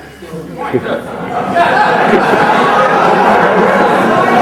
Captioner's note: crowd laughing